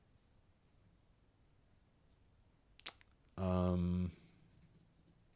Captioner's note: typing